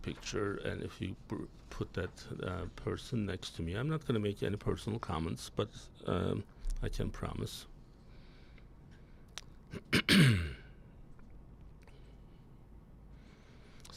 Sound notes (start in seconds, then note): 4.8 clears throat; 4.8 coughs